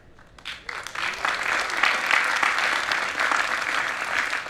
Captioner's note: audience applauding